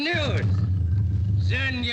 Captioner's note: bear growls